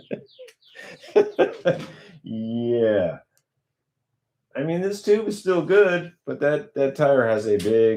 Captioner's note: laughter